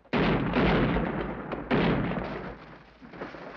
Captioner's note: guns bang